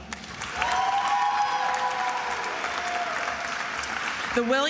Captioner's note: attendees applauding and cheering